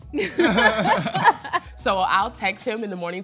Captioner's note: both laugh